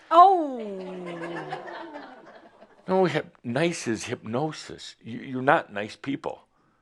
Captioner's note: some chuckles